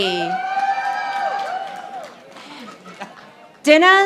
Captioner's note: audience applauding